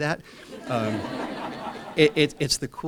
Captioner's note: laughter